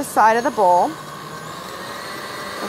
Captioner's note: whirring